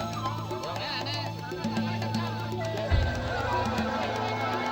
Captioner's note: coyote call